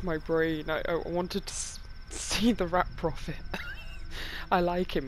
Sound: laughs

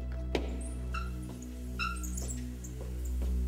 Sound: scrapping

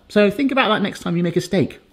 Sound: none

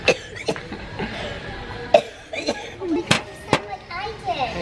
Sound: coughing

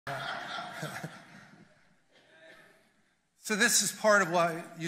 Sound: congregation laughs loudly; chuckles

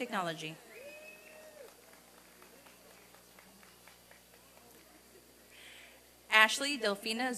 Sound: applause and cheering

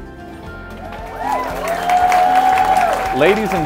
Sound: cheers and applause

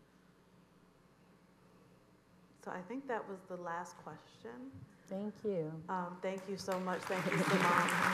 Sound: applause

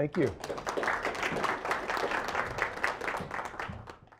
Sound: applauding

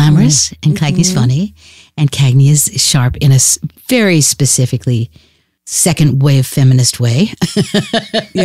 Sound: laughs

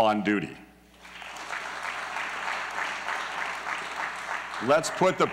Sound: applause

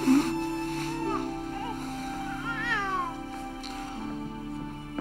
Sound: Sam cries

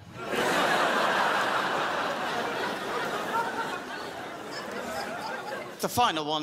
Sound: crowd laughs

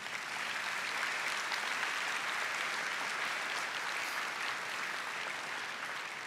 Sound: applause

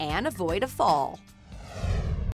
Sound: whooshing

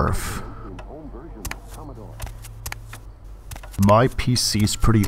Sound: footsteps

